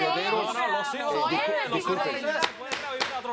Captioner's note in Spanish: Hablan al unísono